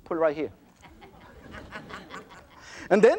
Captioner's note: audience laughter